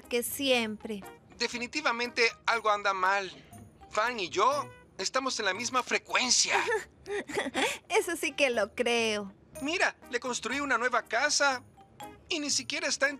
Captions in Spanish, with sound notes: - Definitivamente algo anda mal. Fang y yo, estamos en la misma frecuencia. - [riendo] Eso sí que lo creo. - Mira, le construí una nueva casa y ni siquiera está entusiasmado.